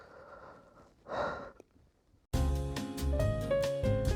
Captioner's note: sighs